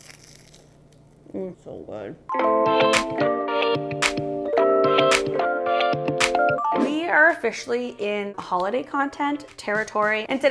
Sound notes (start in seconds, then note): 0.0 pastry crackling; 2.3 peppy music